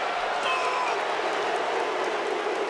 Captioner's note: crowd vocalizing; Bron Breakker vocalizing; crowd booing